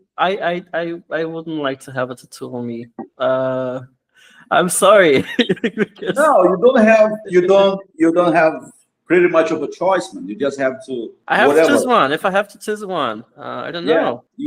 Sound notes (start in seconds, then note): 5.1 laughs